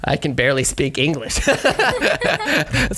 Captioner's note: all laugh